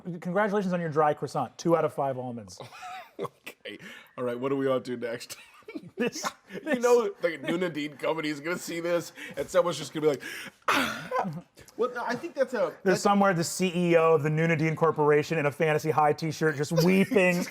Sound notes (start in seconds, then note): 2.6 laughs; 11.9 cries